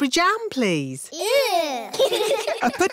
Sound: giggling

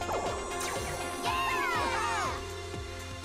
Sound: all cheering

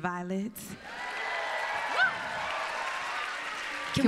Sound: applause

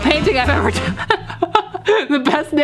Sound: succumbing to laughter

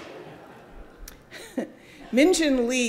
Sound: audience laughing

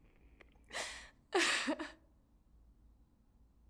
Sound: Eileen Crying

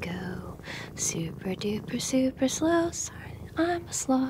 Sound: whispered to camera

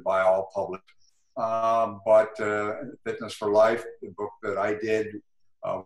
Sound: glitch

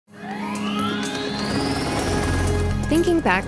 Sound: engine whirring

